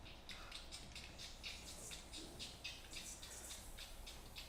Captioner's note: insects buzzing